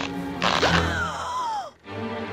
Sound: raspy sponge gasp

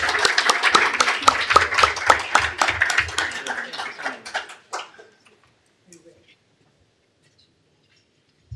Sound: applause

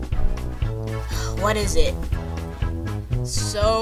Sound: sigh

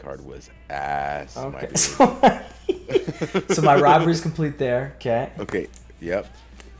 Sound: laugh

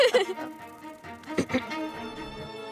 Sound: laughs; clears throat

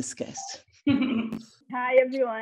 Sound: Erica laughs

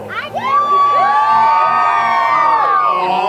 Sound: crowd cheering

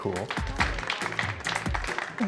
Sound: applause

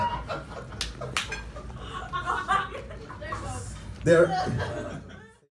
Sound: audience laughing

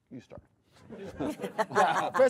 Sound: audience laughing

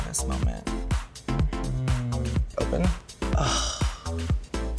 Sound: gasps

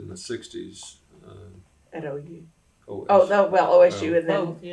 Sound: laughter

